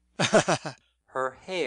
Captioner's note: laughing